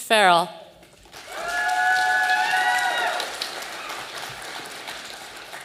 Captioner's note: audience applauding